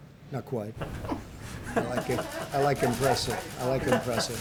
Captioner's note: laughter